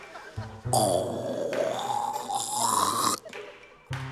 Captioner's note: continues croaking